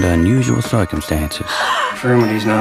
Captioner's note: gasp!